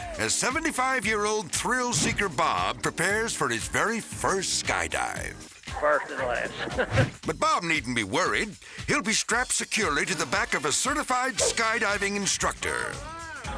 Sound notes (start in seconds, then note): 5.7 chuckles